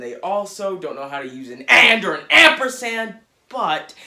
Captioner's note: yelling